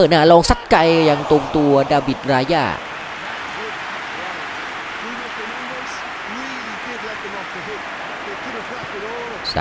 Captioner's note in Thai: ปรบมือ